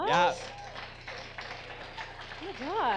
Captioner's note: audience applause